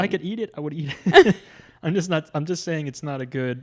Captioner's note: laughs